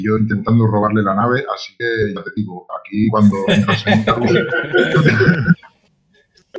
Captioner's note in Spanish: Risas viriles